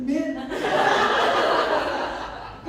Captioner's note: laughter